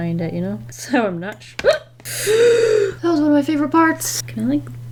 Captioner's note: gasps